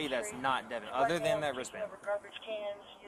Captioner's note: radio chatter